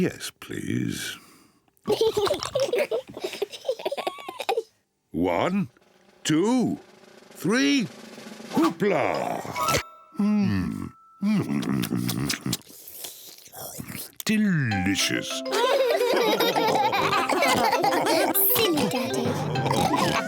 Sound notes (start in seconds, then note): 1.8 both giggle; 11.4 slurps; 15.4 all laughing